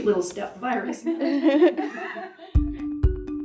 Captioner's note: laughing